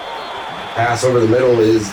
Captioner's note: crowd Noises